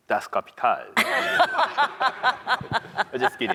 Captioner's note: panel laughing